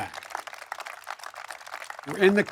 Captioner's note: applause